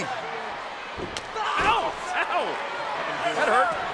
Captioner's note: foot slaps